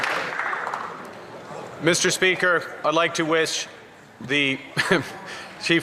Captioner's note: some Applause